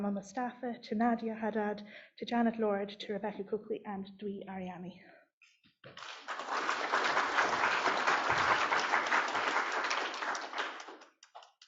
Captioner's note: applause